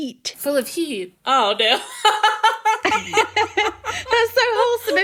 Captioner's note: laughing